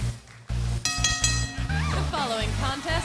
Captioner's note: bell ringing